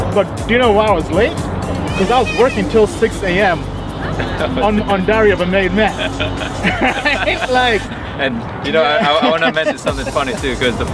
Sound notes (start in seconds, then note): 6.1 laughter